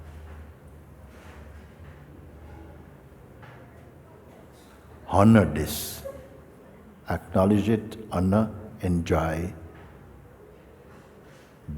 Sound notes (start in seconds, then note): none